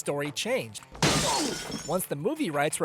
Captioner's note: glass shatter sound